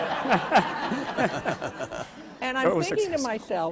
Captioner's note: laughter